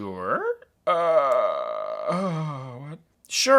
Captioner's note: groans anxiously